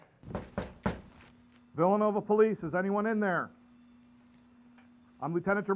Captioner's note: door knocking